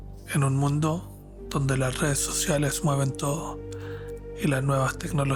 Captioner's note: narrator speaking Spanish